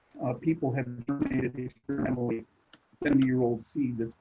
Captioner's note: connectivity hitch drowns other sounds